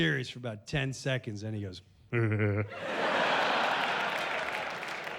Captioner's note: laughing goofily